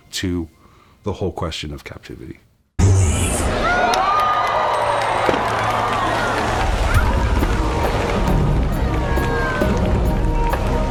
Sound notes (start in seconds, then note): 3.4 cheering; 6.2 splashing